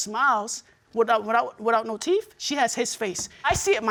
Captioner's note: stammering